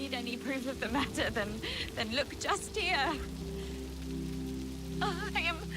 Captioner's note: rain spattering